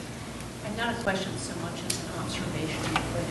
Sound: voiceover

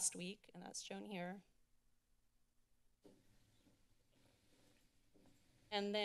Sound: silence

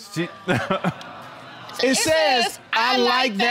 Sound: laughs nervously

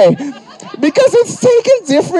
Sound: people laughing

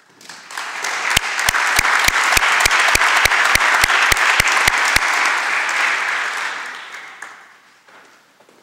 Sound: applause

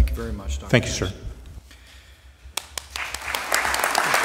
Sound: applause

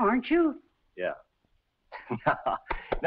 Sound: laughs

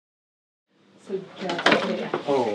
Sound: cup clinks

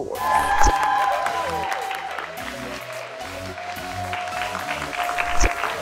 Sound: cheers and applause

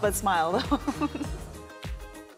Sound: chuckles

